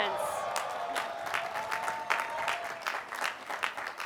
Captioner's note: applause